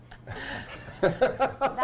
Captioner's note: laughter